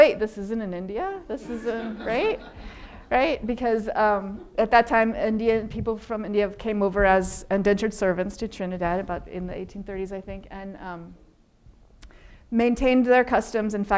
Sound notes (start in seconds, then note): 1.4 audience laughing